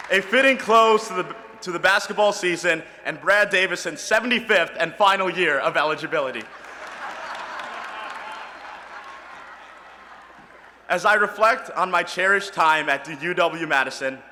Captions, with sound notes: A fitting close to the basketball season, and Brad Davison 75th and final year of eligibility. [ Laughter ] As I reflect on my cherished time at the UW Madison,